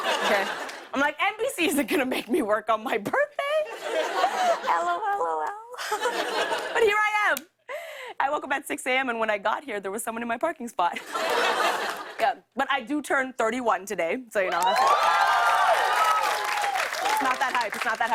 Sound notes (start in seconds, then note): 10.9 laughter; 14.5 cheers and applause